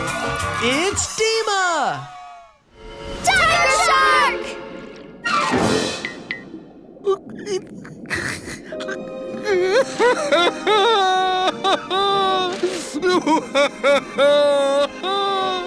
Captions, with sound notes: It's Deema. Tiger shark! [sniffling] [crying]